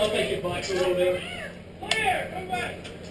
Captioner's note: murmurs